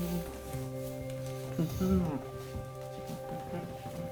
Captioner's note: murmurs